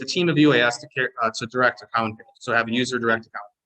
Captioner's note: audio distortion